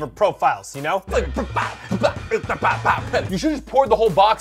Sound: spatting noises

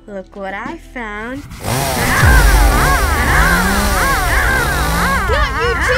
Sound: sawing noise

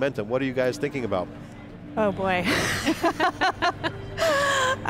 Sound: laughs

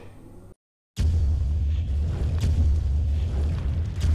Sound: thumping

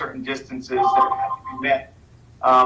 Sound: static

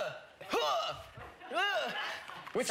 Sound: grunting

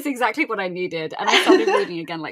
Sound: laughing

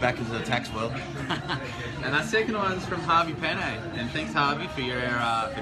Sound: laughs

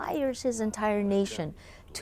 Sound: speaking alternate language

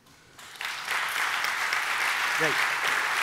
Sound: audience applauding

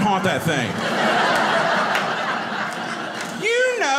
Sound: audience laughing

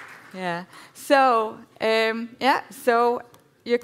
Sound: applause

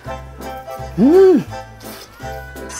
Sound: exclaiming

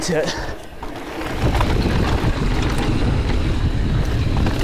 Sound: trail crunches

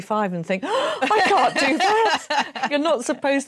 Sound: gasp

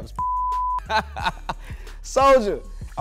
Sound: beep; laughs

